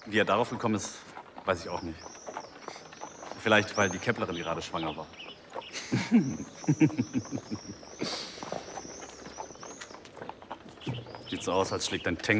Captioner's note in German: gelächter